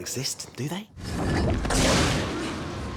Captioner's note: roars